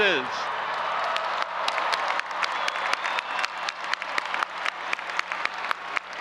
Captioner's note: audience applauding and cheering